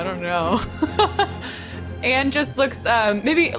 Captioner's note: laughs